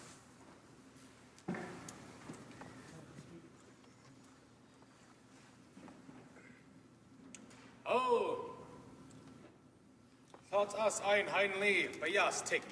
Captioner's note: speaking alternate language